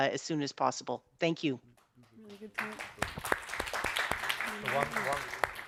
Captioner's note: all applauding